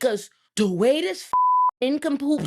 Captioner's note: beep